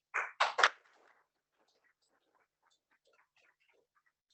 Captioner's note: applause